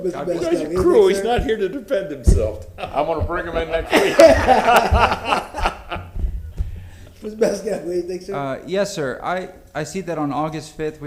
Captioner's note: laughter